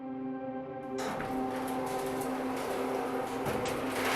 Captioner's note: mechanical humming